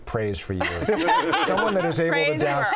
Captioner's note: all laugh